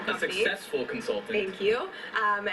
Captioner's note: male Voice